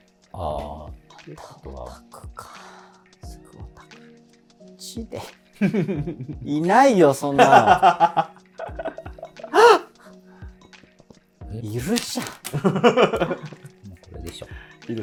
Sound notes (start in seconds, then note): 8.8 laughing; 12.4 laughing